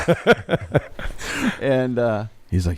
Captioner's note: everyone laughs